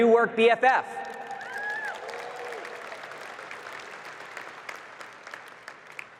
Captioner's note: audience cheering and clapping